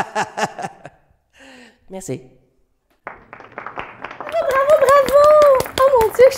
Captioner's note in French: Applaudissements